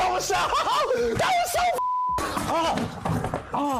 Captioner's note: beep